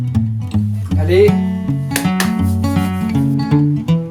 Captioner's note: claps hands